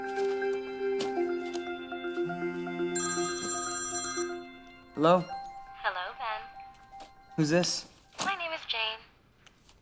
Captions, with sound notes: (Cell phone rings) Hello? Hello, Ben. Who’s this? My name is Jane.